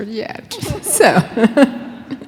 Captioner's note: laughing